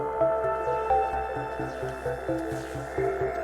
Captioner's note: skis gliding through snow